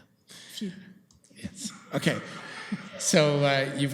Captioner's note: laughter